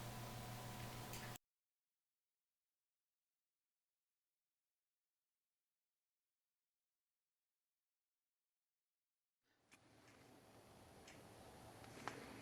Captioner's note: pause